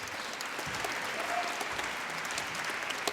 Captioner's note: applause